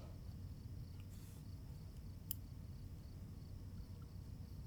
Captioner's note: insects chirping